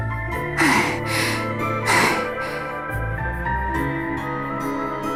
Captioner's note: coughs